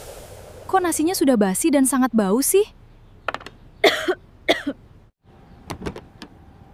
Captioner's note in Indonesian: batuk